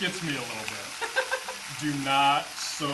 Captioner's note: laughs